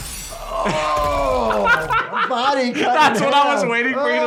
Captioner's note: laughs